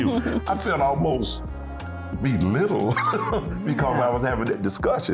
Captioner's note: laughing